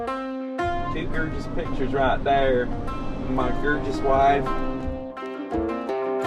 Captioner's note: attempts southern accent